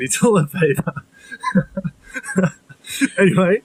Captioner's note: laughs